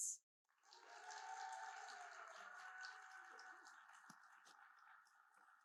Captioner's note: audience cheering and applauding